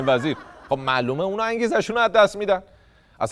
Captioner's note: laughter